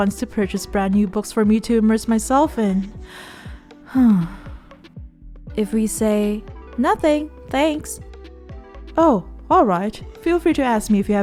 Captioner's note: sigh